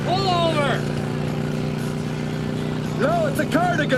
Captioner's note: engine whirring